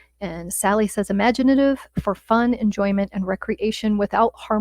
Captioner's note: none